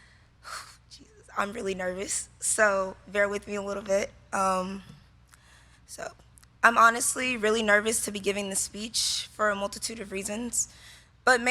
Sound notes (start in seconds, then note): 0.5 exhales